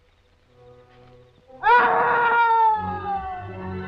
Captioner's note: screaming